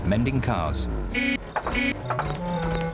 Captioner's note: horn honks